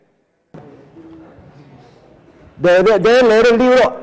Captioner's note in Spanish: sonidos de ambiente cambian de volumen